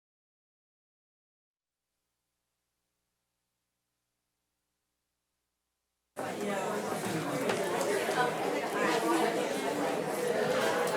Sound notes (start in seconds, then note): 6.2 crowd talking